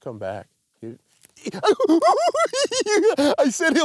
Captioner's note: giggles